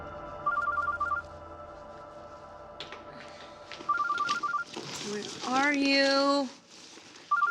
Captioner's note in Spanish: Suena el celular